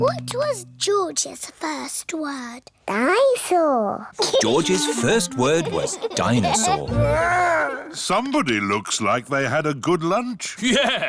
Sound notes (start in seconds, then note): 4.2 giggles